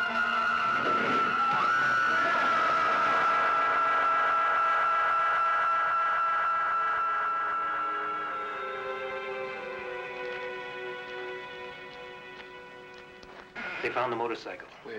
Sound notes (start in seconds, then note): 0.1 screaming